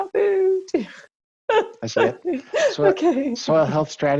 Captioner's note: laughs